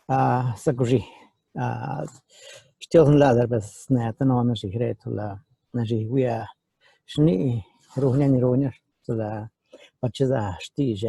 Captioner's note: speaking in San Lucas Quiaviní Zapotec